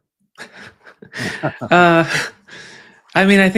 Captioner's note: chuckles